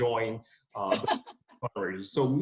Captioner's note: laughs